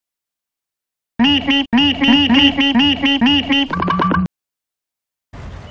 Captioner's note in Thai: เสียงนกโร้ดรันเนอร์จากลูนี่ย์ ทูนส์